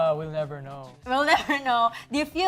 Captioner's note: chuckles